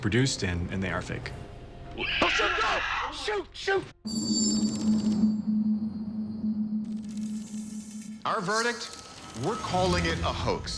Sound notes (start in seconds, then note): 1.3 screeches; 3.9 foreboding music playing